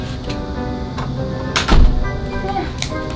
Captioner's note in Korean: 문 닫는 소리